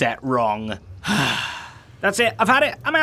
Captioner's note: sigh